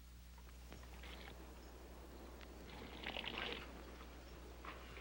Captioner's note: water dripping